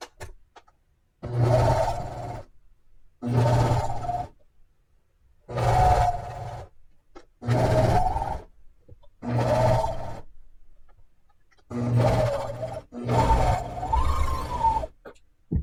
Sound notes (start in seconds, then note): 1.5 machine buzzing